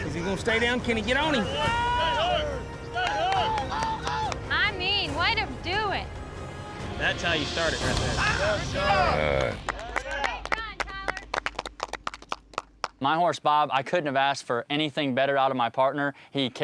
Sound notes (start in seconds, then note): 1.4 all shouting; 6.1 all shouting; 9.4 all clapping